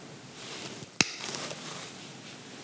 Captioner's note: crack